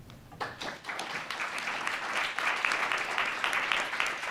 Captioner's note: audience applause